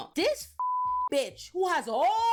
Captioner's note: beep